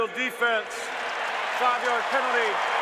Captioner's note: cheering